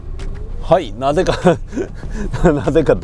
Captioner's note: laughs